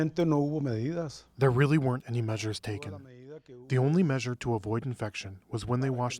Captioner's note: through translator